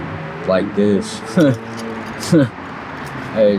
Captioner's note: chuckles